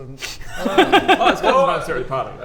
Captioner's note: tricksy laugh